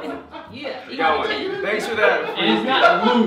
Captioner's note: laughter